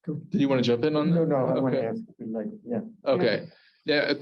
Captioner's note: Hebrew